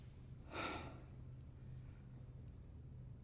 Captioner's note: sighs